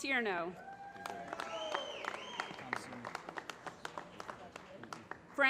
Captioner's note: applause